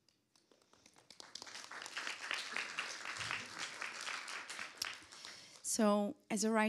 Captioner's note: applause